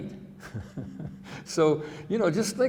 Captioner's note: chuckling